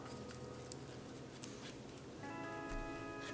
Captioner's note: sound of brush hitting the sides of the tart pan